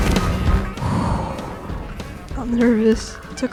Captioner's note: heavily breathing/exhale